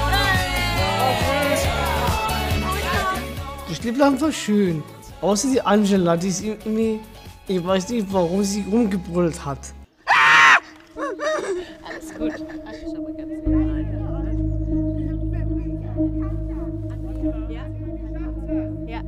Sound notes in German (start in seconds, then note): 0.1 Jubel; 10.0 Ängstlicher Schrei; 13.2 Angespannte Musik